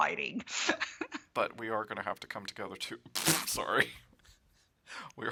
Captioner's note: laughs